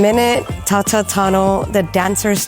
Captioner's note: in native chamoru